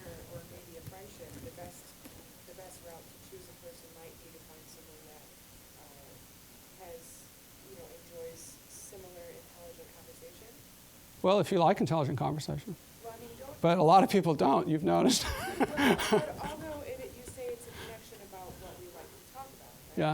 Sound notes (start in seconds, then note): 15.0 all laughing